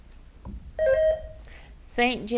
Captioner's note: bell rings